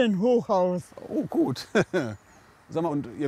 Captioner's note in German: lacht